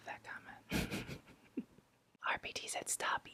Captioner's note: laughs